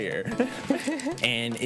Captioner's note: both laugh